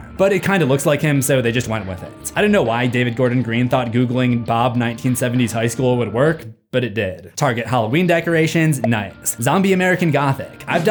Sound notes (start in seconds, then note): none